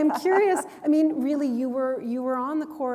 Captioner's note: chuckle